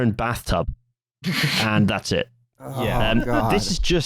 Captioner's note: laughs; snickers